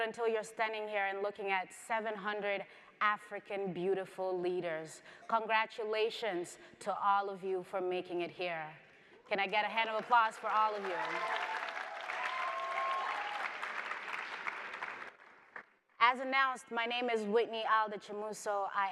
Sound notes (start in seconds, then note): 12.2 audience applauds